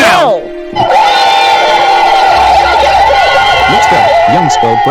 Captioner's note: troublemakers crying